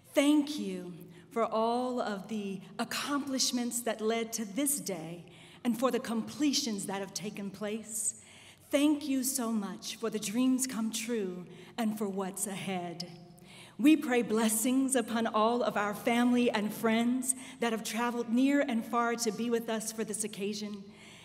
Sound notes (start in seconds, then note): none